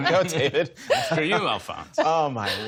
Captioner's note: laughter